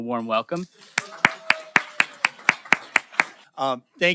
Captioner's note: applause